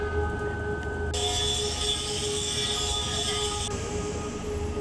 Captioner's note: saw buzzing; ambient music